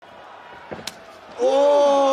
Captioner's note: foot thwacks